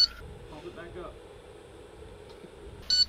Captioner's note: heavy breathing